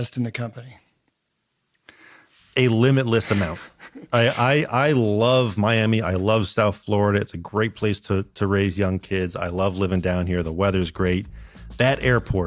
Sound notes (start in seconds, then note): 3.3 laughs